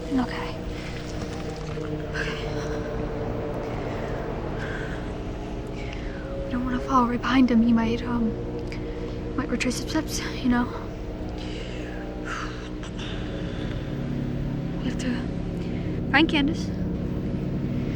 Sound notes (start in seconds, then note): 0.6 catching breath